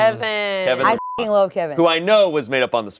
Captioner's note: beep